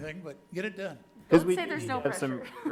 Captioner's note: overlapping chatter